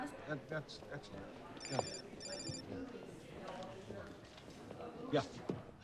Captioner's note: phone ringing